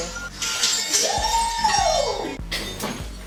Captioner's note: breaking glass